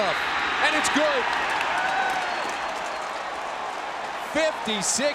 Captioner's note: crowd cheering